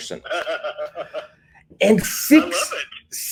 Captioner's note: laughs